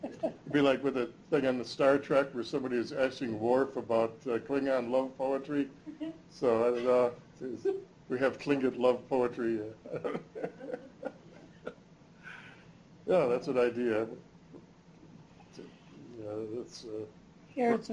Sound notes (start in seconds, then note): 6.6 chuckles; 9.8 laughs